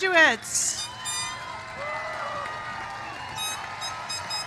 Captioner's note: cheers and applause